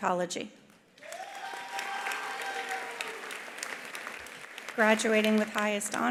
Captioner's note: attendees cheering; attendees applauding